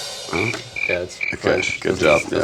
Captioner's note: crickets